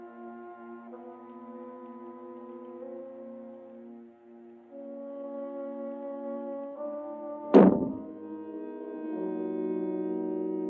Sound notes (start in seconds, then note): 7.5 muffled boom